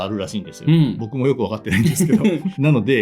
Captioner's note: laughs